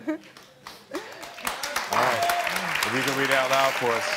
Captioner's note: crowd clapping